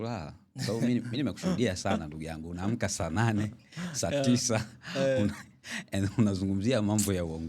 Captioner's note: clearing throat